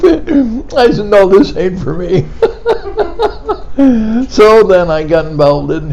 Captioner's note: laughing